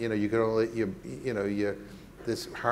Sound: stammering

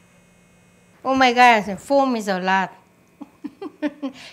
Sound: laughs

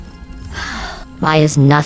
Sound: sigh

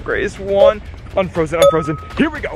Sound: dings

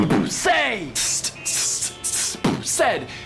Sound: beatboxing

